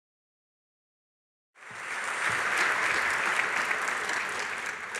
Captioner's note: applause